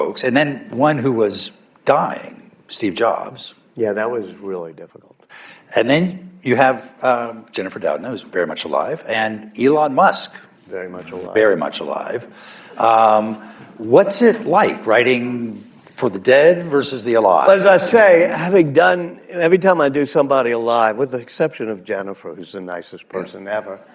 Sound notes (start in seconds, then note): 13.3 laughter